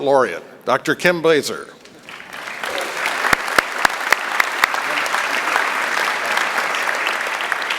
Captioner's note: applause